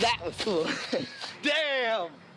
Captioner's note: laughing